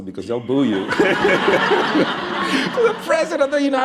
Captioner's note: laughter